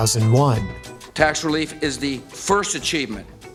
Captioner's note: Voice of George W Bush